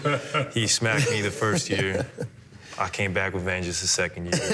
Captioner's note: laughter